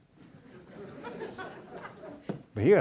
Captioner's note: audience laughs